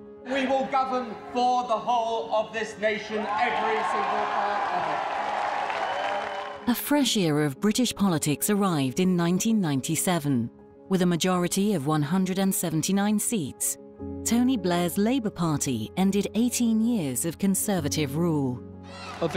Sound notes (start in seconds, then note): 4.8 audience applauding and cheering